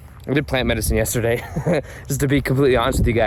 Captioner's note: laughs